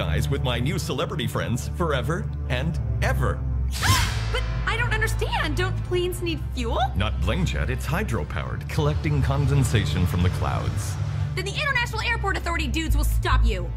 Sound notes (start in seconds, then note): 3.5 gasps